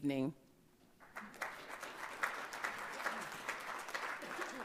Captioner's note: everyone applauding